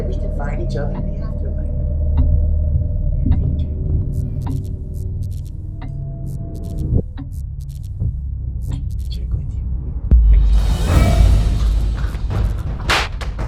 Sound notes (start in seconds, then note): 5.2 eerie music; 5.2 electricity buzzes; 9.7 dramatic music